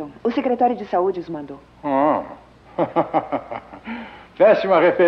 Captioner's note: chuckles